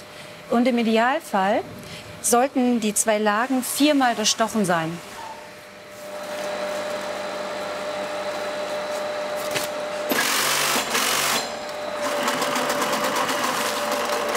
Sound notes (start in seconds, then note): 6.1 machine roar; 10.0 rattling